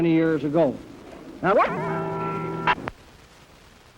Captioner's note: bell tolls